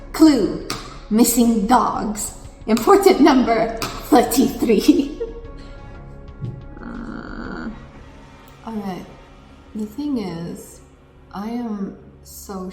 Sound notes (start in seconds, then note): 4.7 laughs; 6.6 groans